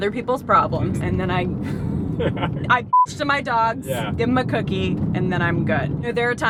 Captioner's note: beep